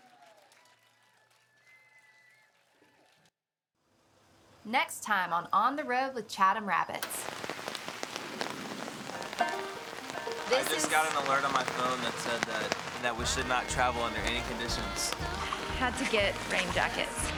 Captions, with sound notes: We'll see you next time. [audience cheering and applauding] Next time on "On The Road with Chatham Rabbits". [rain pelting] - I just got an alert on my phone that said that we should not travel under any conditions.